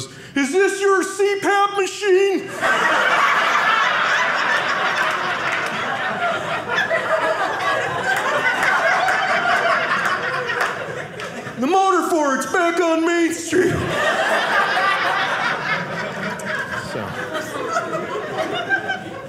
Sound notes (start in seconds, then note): 2.4 audience laughing; 13.5 audience laughing